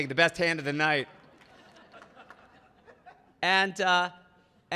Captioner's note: audience laughing; audience laughing